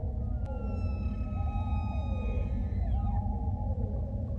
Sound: elk screeching

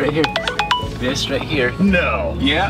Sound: phone ringing

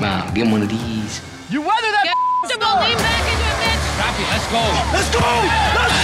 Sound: beep

